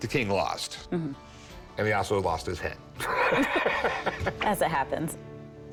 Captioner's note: laughs